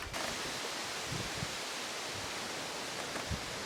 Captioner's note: wind rustling